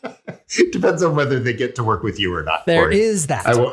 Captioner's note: laugh